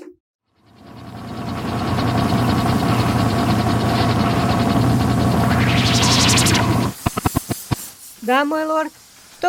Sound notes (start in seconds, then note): 0.8 rumble of various engines; 5.3 rustle of teleportation